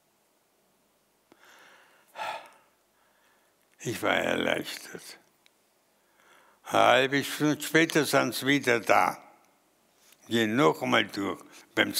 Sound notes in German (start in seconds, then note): 2.1 seufzt